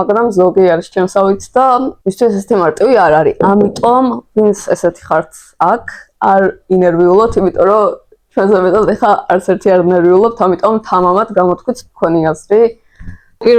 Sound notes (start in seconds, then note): none